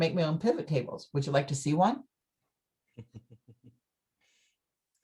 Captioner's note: chuckles